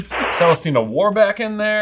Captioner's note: static rustling